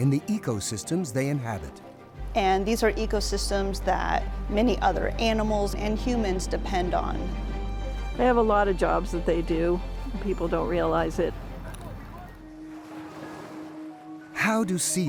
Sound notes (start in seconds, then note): 8.9 pensive music; 8.9 waves crashing